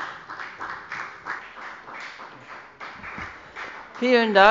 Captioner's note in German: Beifall bei der FDP